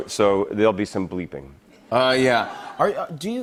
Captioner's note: laughter